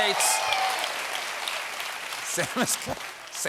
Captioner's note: cheers and applause